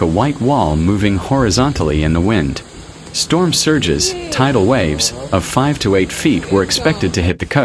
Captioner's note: tidal waves